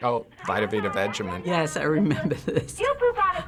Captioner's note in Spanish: riéndose